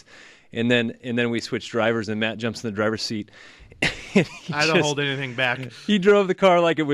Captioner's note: laughs